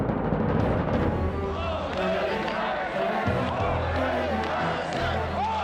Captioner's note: crowd chanting